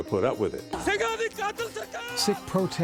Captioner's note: non-english speech